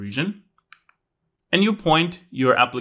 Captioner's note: remote clicking